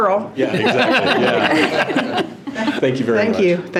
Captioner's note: trustees laughing